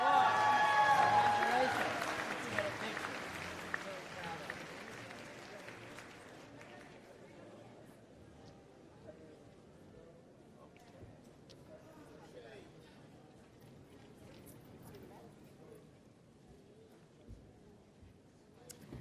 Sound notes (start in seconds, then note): 0.0 applause